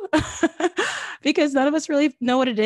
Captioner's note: laughs